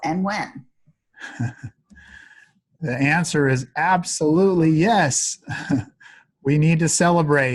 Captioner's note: chuckles